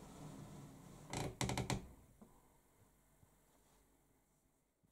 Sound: door creaks

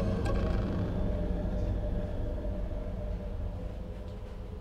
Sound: creaking

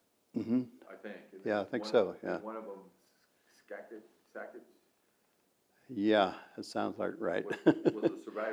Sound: laughs

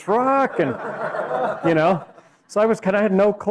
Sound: laughing

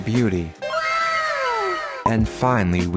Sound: かわいい wow sfx

